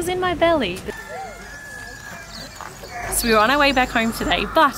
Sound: rooster crows

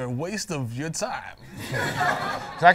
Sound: laughter

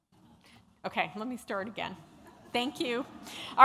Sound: laughter

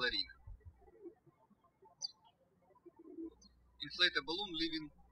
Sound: birds chirping

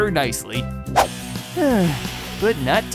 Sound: sighing

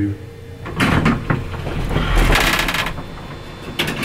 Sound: elevator door creepily and loudly opens

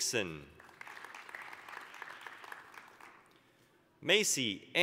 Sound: applause

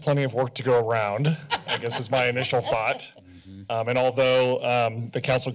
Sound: laughter

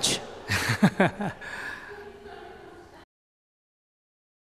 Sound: audience laughter; laughter

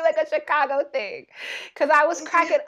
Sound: laughing

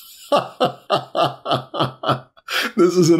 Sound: laughter

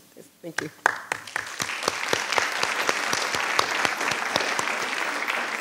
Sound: audience applauding

